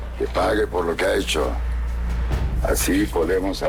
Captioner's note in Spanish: none